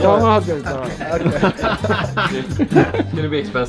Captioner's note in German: Gelächter